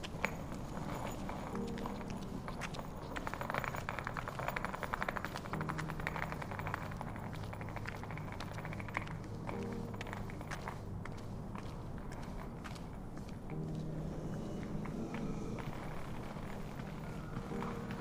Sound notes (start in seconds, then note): 0.9 sound of luggage rolling on pavement